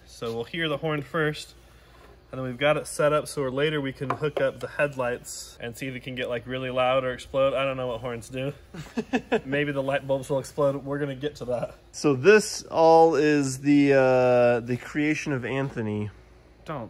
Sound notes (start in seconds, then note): 8.7 laughs